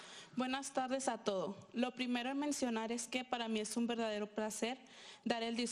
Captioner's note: speaking in foreign language